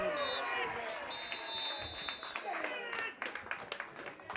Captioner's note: referees whistle; clapping